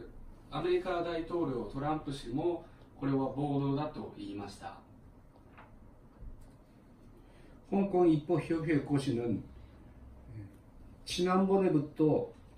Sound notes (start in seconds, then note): 7.4 Korean